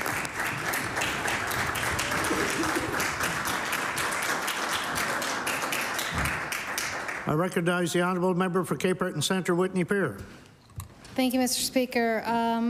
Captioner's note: applause